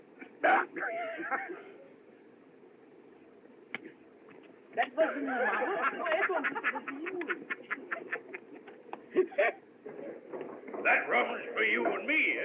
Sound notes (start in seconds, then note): 0.2 laughs; 7.0 laughing